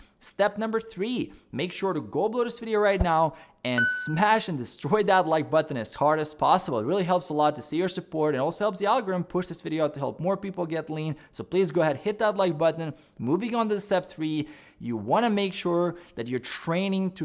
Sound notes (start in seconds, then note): 3.8 dinging